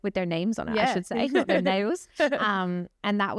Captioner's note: chuckles